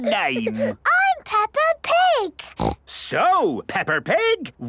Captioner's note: Peppa giggles; snorts